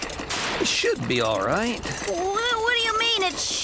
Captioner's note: generator Backfiring